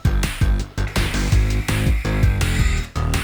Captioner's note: sound of breathing into the hose